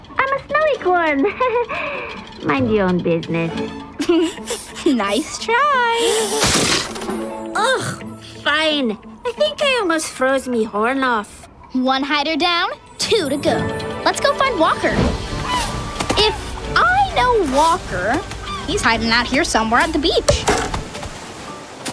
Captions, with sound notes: I'm a snowy-corn. Heh, heh. Mind your own business. (giggling) Nice try. Ach. Fine. I think I almost froze me horn off. One hider down, two to go. Let's go find Walker. If I know Walker, he's hiding out here somewhere at the beach.